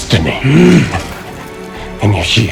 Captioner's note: Emhyr grunts